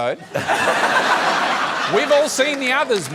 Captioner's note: laughter